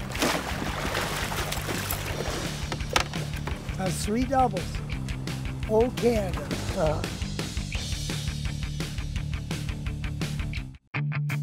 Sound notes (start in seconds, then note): 1.8 fish splashing; 6.8 chuckling